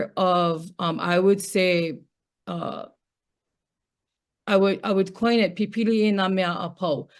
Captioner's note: speaking in Hawaiin